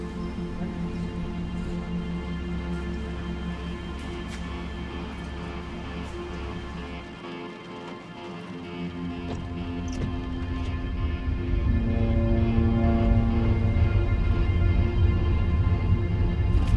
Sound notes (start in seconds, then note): 0.2 dramatic ominous music; 6.8 rain trickling; 9.2 windscreen wipers squeaking; 10.9 ship horn blowing